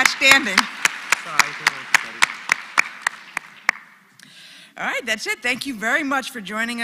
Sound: applause

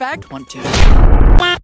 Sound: boom

